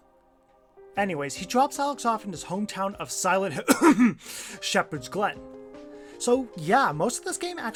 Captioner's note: cough